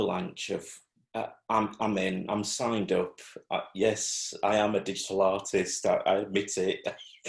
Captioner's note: laughs